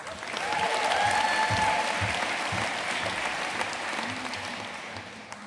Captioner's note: audience cheering and applauding